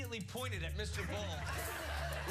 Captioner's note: laughter